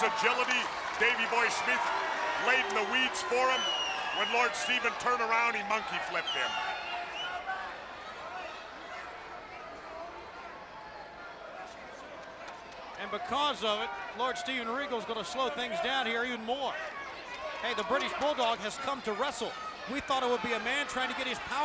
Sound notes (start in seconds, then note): 7.4 crowd chatter